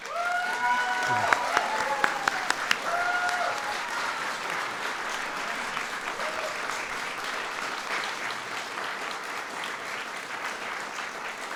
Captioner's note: applause